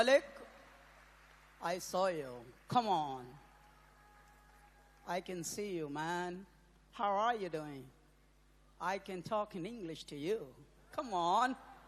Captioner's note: applause